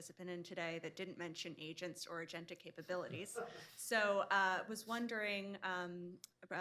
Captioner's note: laughter